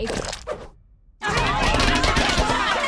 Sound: shouting

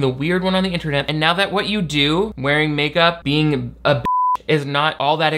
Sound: beep

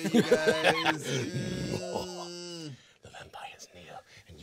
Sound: manically laughing

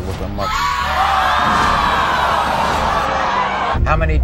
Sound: audience screaming

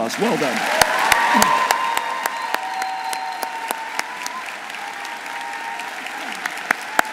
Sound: audience applauding; audience cheering

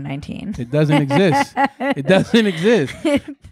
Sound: laughing

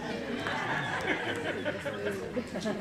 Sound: laugh

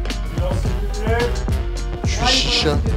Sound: clap

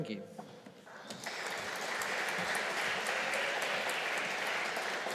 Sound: audience applauding

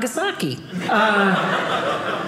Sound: audience laughing

